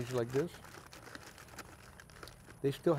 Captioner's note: foil crinkling